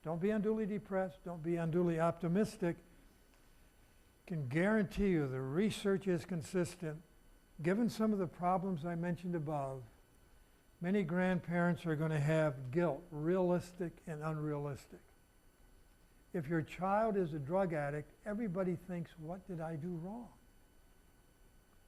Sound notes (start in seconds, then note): none